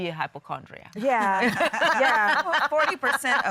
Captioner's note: laughing